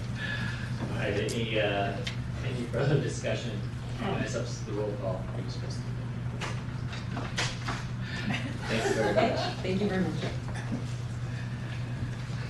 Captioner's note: laughter